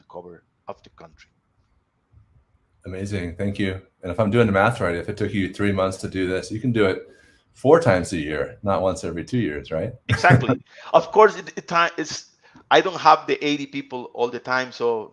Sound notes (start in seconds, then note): 10.0 laughs